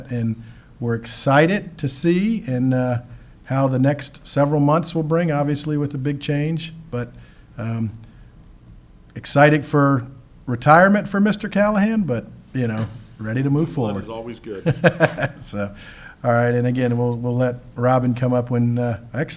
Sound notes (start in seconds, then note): 14.3 laughs